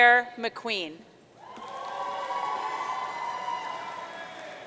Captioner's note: audience cheering